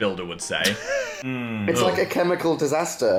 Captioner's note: laughs